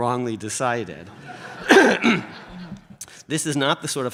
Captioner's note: audience laughs